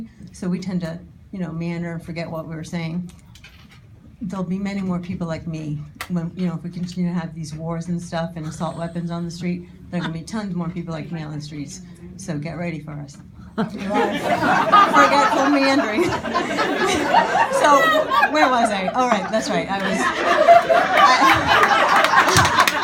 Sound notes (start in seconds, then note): 13.6 audience laughing; 19.6 audience laughing